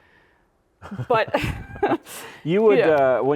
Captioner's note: laughing